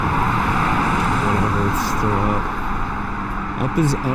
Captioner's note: paint splashes